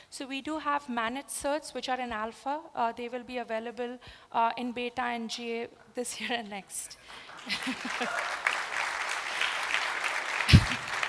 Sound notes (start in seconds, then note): 7.0 applause